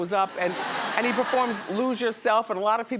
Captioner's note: audience laughs